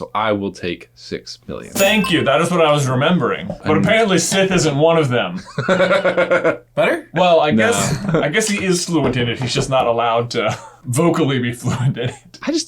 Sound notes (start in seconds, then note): 5.4 laughing